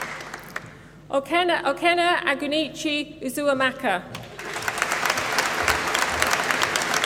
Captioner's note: applause